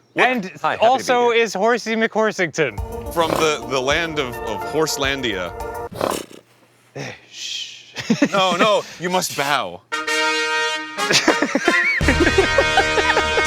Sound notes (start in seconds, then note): 5.8 horsey blusters